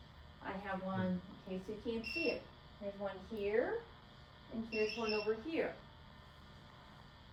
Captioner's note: sets off EMF reader